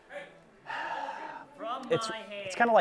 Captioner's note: gamers loudly talking; Billy sighs